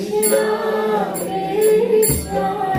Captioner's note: bell; singing